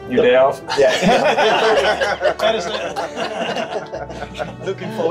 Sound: everybody laughs

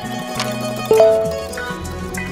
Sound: phone chimes

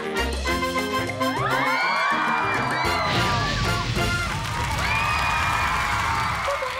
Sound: cheering

